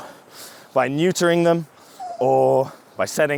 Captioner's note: dog whimpers